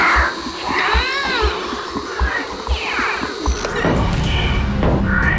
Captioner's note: Scout grunting; screaming